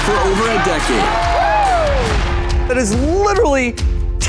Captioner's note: crowd cheering